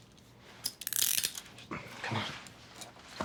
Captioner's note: handcuffs zipping